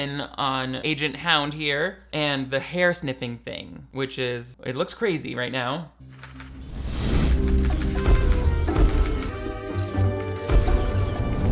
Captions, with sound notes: on Agent Hound here and the hair sniffing thing, which is, it looks crazy right now. (slow music) (camera shutters clicking)